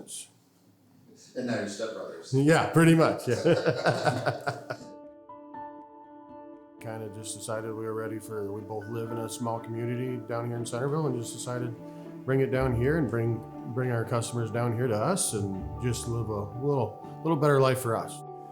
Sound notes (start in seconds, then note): 3.1 laughs; 3.2 laughter